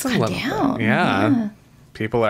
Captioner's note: gasps